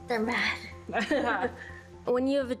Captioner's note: both laughing